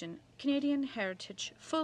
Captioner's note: speaking in french